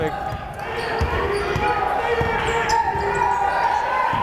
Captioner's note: yelling